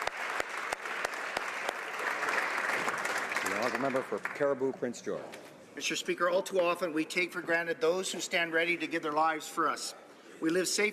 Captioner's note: applause